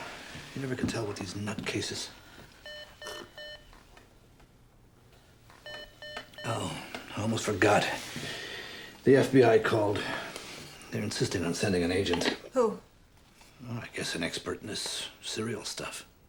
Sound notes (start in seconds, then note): 2.6 intercom beeps